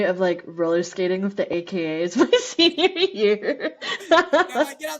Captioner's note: laughter